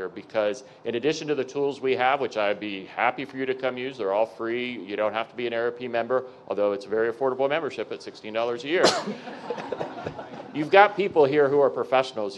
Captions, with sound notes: Because in addition to the tools we have, which I'd be happy for you to come use, they're all free, you don't have to be an AARP member, although it's very affordable membership at $16 a year, (audience members laughing) you've got people here who are professionals